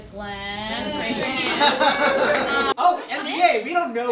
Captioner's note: audience laughs